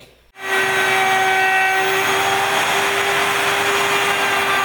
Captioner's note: router whirring